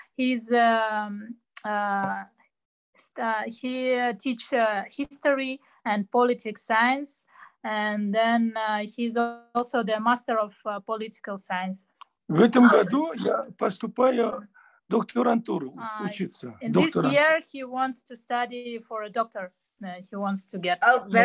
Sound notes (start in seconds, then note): 14.5 in Russian